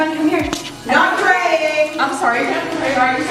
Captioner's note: shouting